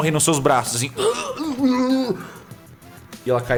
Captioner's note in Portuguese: Grunidos